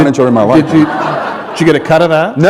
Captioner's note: laughter